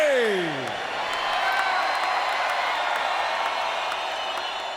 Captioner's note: audience cheering